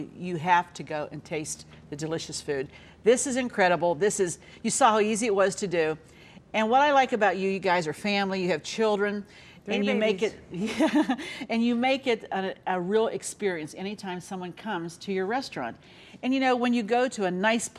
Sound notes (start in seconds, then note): 10.5 laughs